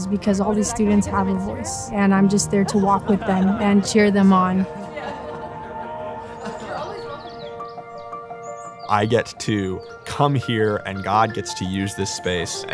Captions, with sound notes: because all these students have a voice, and I'm just there to walk with them and cheer them on. (people chattering) (soft bright music) - I get to come here and God gets to use this space,